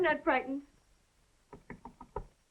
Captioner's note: knocking